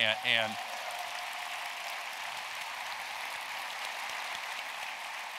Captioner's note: applause